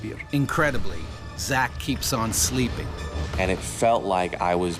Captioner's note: voiceover